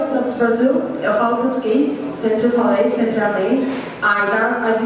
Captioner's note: speaking Portuguese